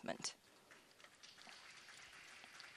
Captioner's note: applause